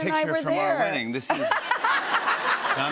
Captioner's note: laughter